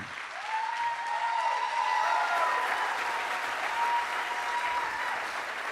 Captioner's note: applause